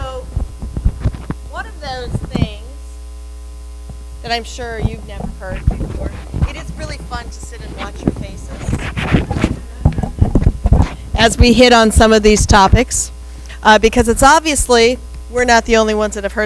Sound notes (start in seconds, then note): 9.4 audience laughs